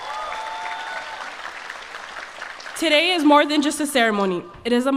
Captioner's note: applause